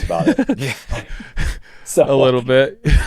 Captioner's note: laughing